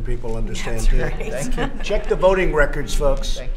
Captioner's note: laughter